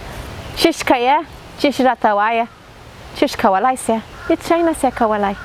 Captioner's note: speaking in foreign language